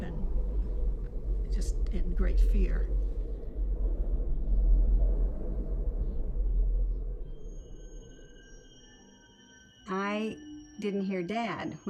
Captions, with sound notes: and just in great fear. (wind blowing) - I didn't hear dad